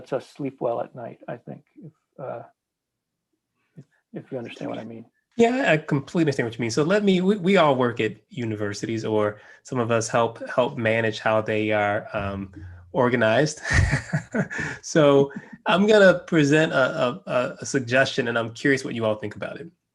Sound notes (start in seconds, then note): 13.6 laugh